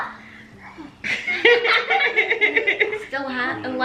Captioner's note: everyone laughs